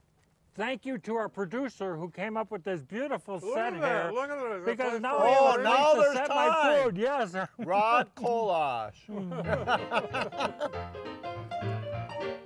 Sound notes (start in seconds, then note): 7.1 chuckling; 9.1 laughing; 9.4 ragtime music